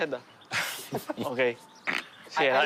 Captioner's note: they laugh